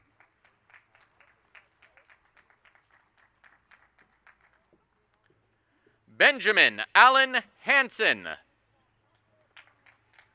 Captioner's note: applause; applause and cheering